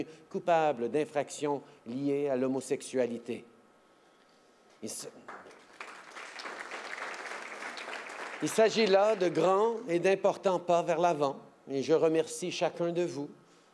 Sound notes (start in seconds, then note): 5.2 applause